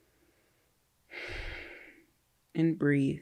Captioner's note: breathes out